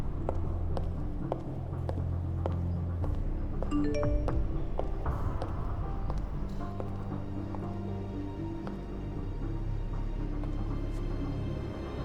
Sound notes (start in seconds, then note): 3.7 cell phone chiming